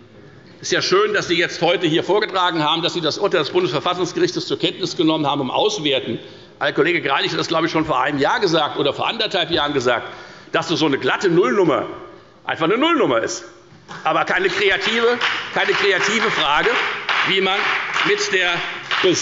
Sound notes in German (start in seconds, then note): 14.0 Beifall bei der FDP